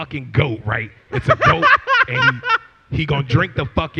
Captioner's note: laughter